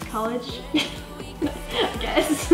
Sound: laughing

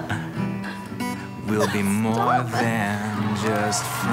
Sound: giggles

